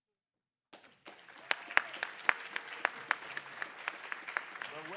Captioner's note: applause